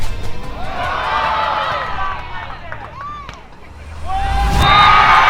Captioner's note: music fades; crowd cheers; crowd celebrates